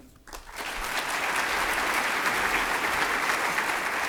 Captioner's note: applauding